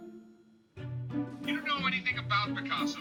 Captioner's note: on phone